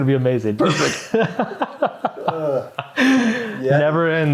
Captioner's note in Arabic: يضحك; تتنهد